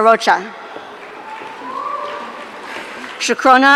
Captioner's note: audience cheering